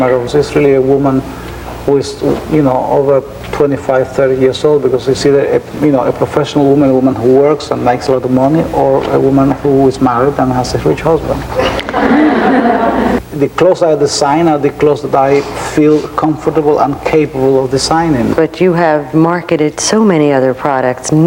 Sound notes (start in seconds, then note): 11.5 laughing